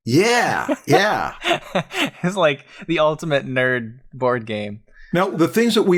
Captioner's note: laughs